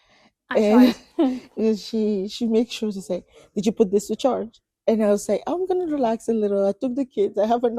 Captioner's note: laughs